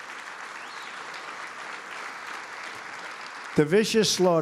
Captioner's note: applause